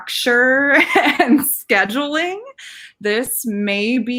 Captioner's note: laughing